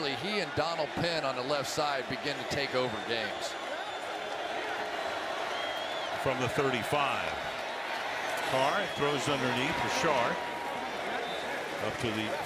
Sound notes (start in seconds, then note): 4.0 crowd cheers